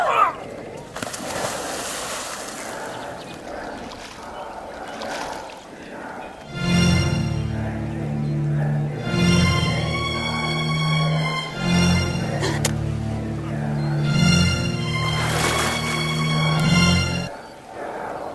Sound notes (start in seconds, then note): 0.4 water splashing; 4.0 mysterious whisper chanting; 7.0 dramatic music